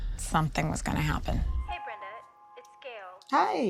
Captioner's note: on phone